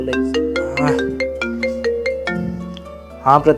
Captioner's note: phone rings